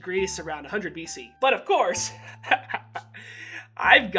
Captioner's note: laughs